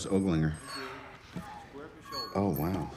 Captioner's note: Pepper sighs